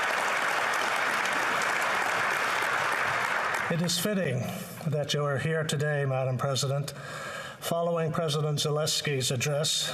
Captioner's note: applause